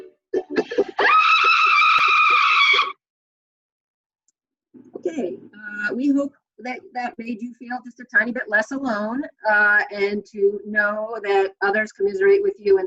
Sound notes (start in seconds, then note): 0.9 screams